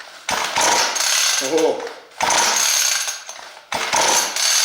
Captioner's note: engine throating